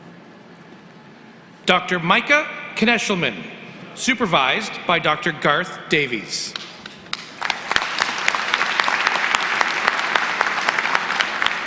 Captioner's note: applause